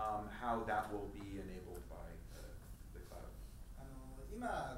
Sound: speaking in foreign language

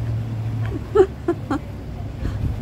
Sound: laugh

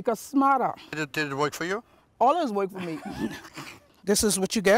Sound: laughter

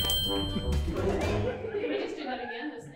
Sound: and crew laugh

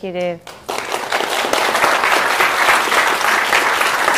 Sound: applause

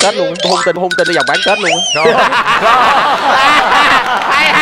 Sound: laughing

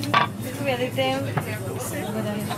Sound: waitress speaks in Bulgarian

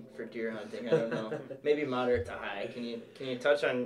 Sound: laughs

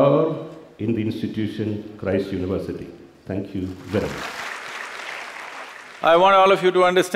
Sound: applause

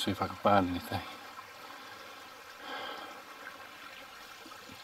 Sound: burbling water

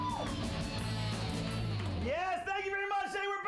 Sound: audience cheering

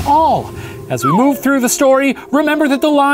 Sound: whooshing; slide whistle

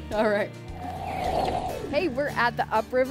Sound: air whooshing

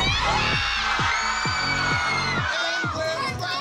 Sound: crowd cheers

